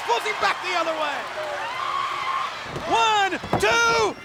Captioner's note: audience cheers